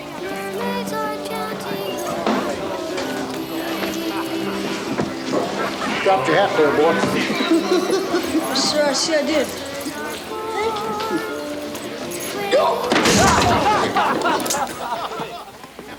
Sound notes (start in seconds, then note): 7.9 giggles; 12.4 patron yelps; 13.3 patrons laugh